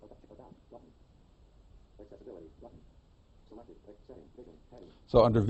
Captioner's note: iPhone announcing highlighted tabs